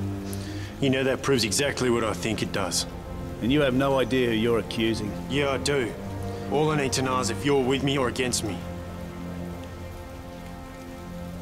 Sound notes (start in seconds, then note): none